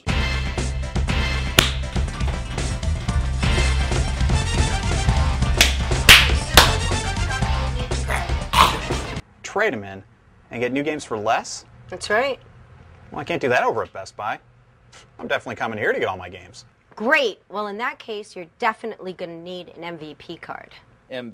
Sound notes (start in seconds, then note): 6.0 Ethan clapping; 7.8 Ethan coughing